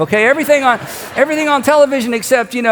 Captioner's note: congregation laughs